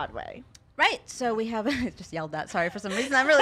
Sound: chuckles

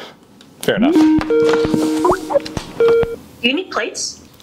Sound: internet phone rings

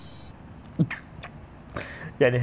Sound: chuckles

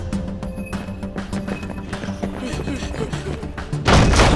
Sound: Mechanizer beeping

